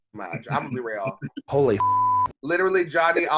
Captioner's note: beep